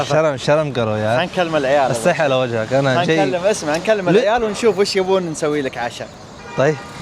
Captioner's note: Arabic